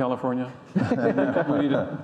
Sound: panelists laugh

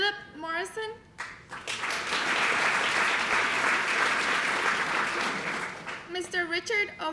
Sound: applause

